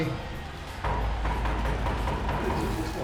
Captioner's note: door knocking